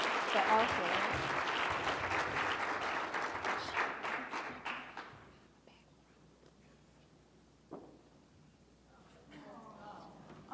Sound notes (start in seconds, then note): 3.8 whispering indistinctly